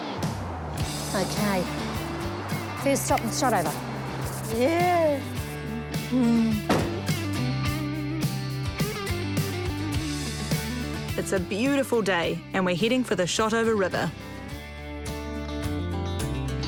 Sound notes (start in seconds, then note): 5.1 rubs hands together; 7.5 upbeat rock music